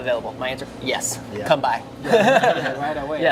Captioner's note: laughing